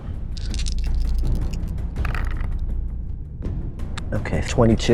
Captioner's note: dice rattling